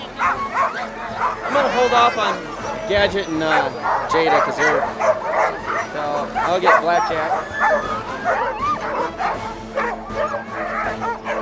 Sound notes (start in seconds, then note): 0.2 dogs barking; 8.1 dogs barking